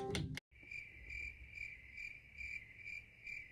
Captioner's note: crickets chirp